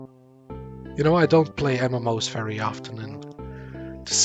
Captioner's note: big sigh